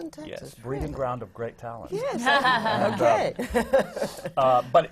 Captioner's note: sutton laughs